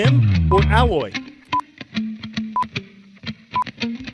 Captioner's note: beeping